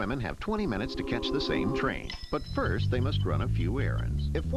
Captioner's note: clock Ticking